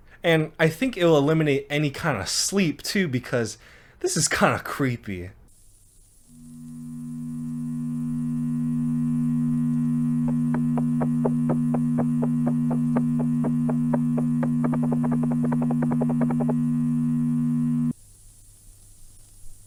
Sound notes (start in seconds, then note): 6.5 video buzzing